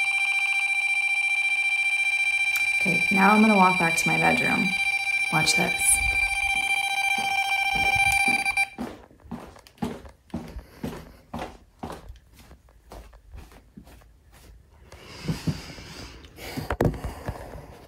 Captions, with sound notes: Okay, now I'm gonna walk back to my bedroom, watch this. (footsteps walking)